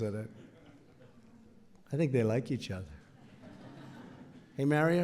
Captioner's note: laughter